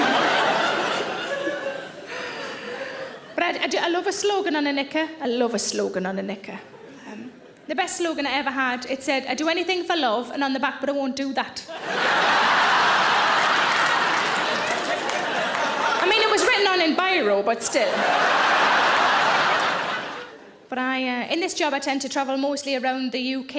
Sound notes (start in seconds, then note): 0.0 audience laughing; 11.7 audience laughing